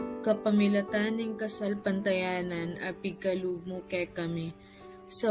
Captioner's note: woman praying in Kapampangan